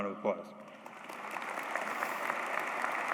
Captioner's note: applause